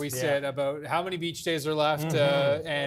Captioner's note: laughter